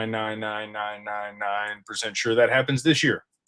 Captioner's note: none